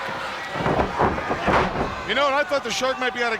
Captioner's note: body slamming